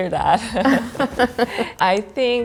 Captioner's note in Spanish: riendo